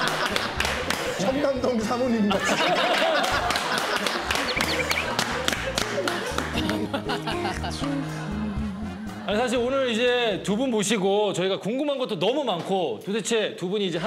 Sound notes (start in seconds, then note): 2.3 laughing